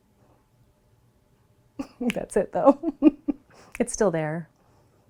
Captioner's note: chuckles